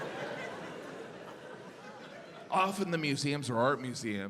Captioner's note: audience laughs